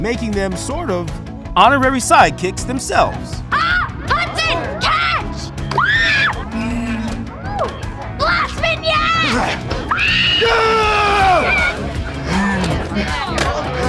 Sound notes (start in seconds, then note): 5.7 screaming; 8.9 screaming